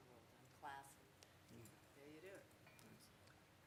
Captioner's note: speaking off mic